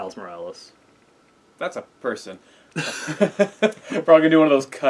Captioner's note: laugh